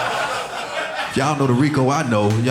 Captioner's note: audience laughing